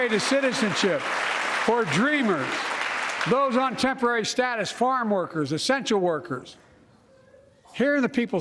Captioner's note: applause